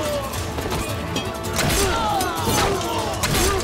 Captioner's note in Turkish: Bağırıyorlar